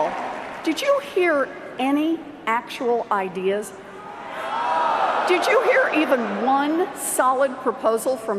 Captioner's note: cheers and Applause